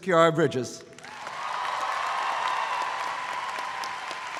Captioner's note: audience applauds